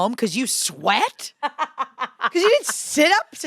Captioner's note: laughs